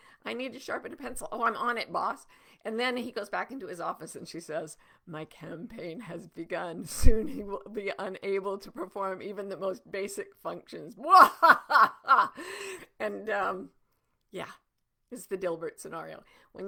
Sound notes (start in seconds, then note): 11.0 laughing hysterically